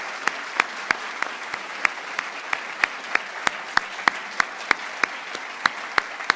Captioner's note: applause